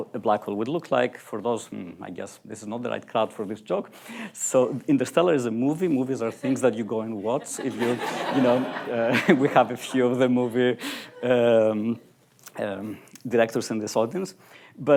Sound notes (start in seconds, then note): 7.2 laughter